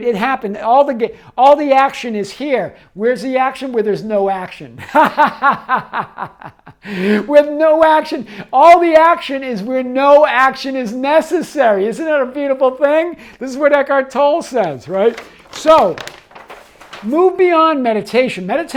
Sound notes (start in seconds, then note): 4.8 laughs